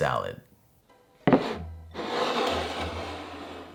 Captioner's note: bowl sliding